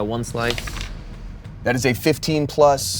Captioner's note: die rolls